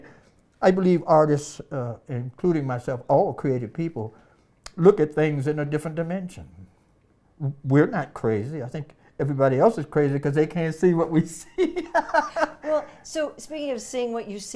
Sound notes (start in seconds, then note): 11.2 laughs